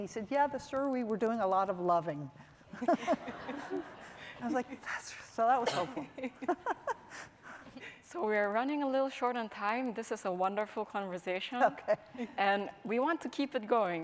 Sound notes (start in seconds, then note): 2.7 laughing; 6.0 chuckling